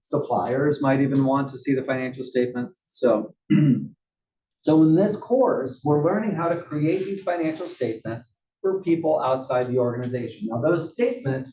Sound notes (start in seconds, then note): 3.5 cough